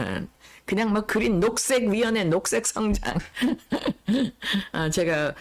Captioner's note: laughs